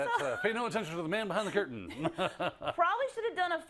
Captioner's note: laugh